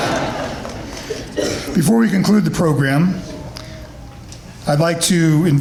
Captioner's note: laughter